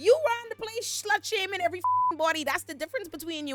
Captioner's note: beep